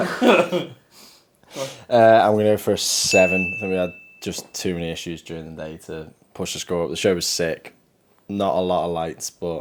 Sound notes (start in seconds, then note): 0.0 giggling; 3.0 bell dinging